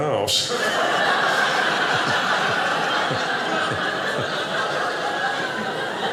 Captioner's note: audience laughing